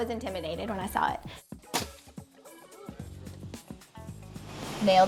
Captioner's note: nail gun firing